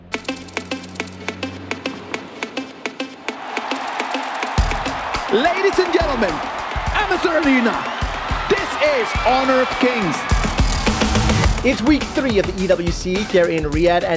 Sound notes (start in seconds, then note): 0.1 upbeat music playing; 3.2 crowd cheering; 5.3 commentator in English